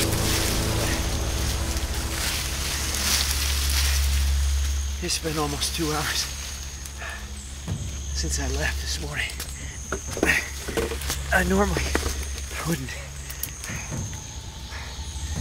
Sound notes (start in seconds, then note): 6.6 breathing heavily